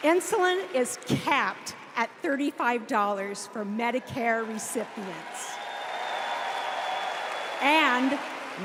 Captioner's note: applause